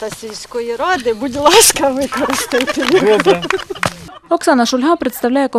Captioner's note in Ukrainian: Оплески